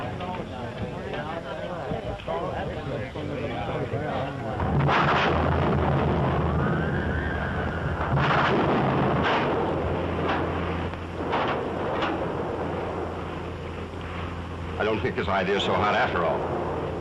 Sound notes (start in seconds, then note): 4.5 thundering; 6.3 wind howling; 11.1 thundering